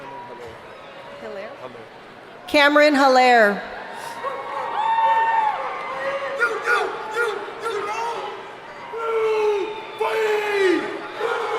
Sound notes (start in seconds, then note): 5.4 man shouting in audience; 9.3 man shouting in audience